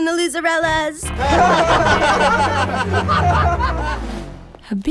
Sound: laughing

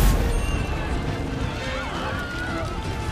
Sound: screaming

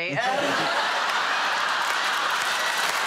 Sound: laughter

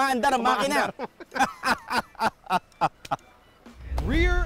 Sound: both laughing

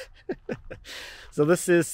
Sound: chuckling

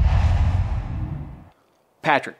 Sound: logo swooshes

